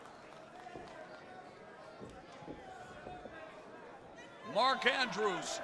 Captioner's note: crowd chatter